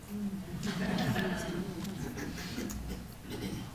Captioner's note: audience laughing